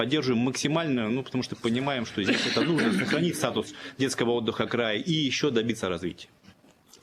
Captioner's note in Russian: откашливается